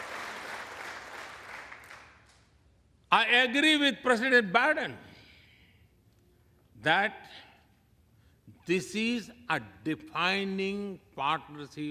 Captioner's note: applause